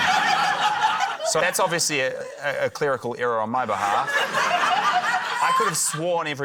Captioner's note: laughter